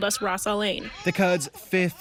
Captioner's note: speaking foreign language